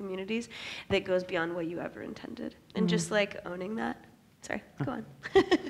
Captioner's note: laughs